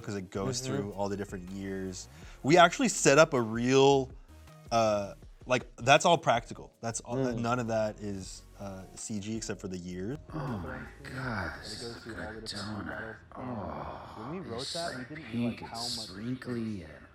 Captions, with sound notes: 'cause it goes through all the different years. We actually set up a real, like, that's all practical. None of that is CG except for the year - [Voiceover] Oh my God, this is a good donut. Oh, it's just like pink, it's sprinkly,